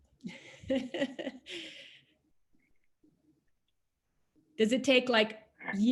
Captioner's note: laughing